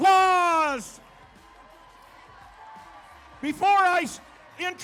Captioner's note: crowd cheering